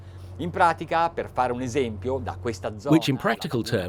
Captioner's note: speaking foreign language